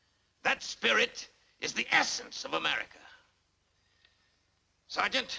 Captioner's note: none